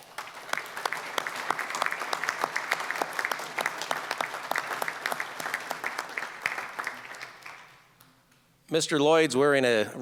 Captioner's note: applause